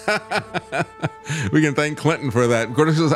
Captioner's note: laughing